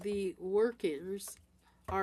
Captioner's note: speaking French